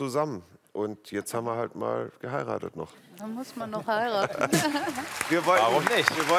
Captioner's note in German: Applaus